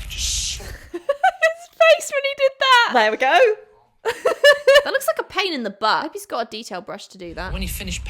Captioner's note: laughs